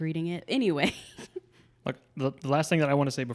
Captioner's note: laughs